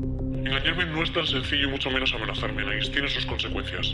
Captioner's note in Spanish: voz distorsionada